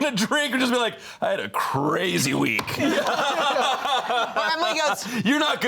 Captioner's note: all laughing